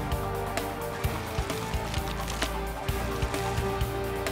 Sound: cards shuffling

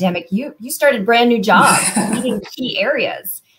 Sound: laughter

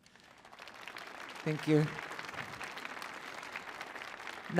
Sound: applause

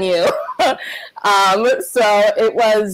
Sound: laughs

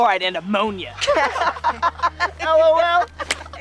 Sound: laughing

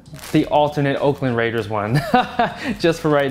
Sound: laughs

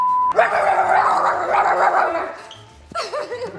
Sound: beep; barking

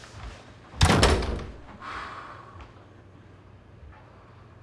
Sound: door bangs

